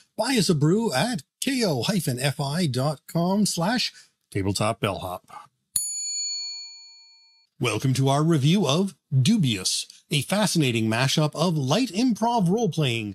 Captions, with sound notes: Buy us a brew at ko-fi.com/tabletopbellhop. (bell dings) Welcome to our review of Dubious, a fascinating mash-up of light improv role-playing,